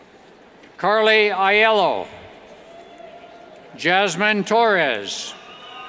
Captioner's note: cheers